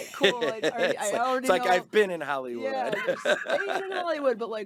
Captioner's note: laughing